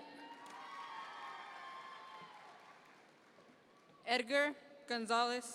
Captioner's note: audience members cheer